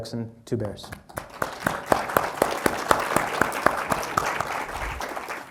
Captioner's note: applause